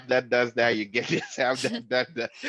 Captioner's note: general laughter